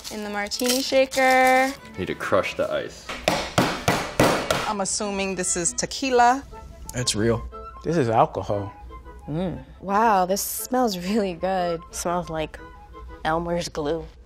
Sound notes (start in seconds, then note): 3.1 mallet pounding